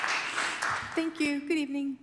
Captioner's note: applause